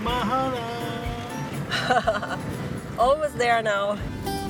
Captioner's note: laughs